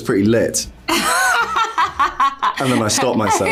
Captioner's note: laughter